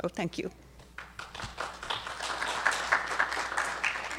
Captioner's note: applause